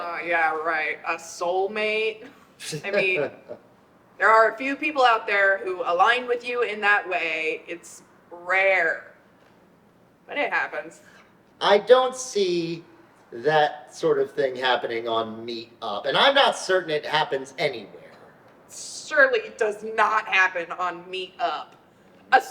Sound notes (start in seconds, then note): 2.6 chuckles